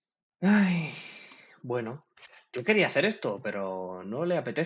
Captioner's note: sigh